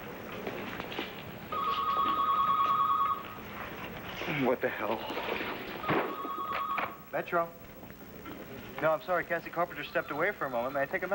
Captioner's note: telephone rings